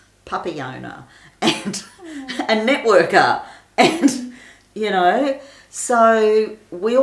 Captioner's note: laughs